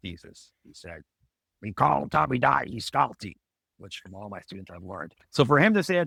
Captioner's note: speaks in Hebrew